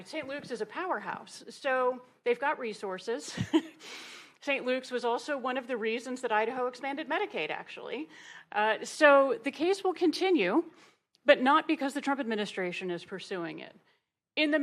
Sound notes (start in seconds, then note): 3.3 laughs